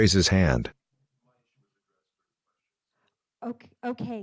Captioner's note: speaking faintly